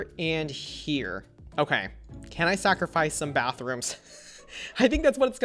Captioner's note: chuckles